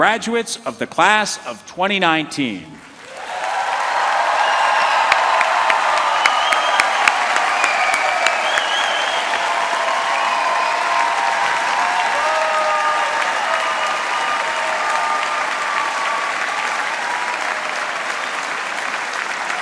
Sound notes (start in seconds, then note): 7.7 cheering; 9.7 applause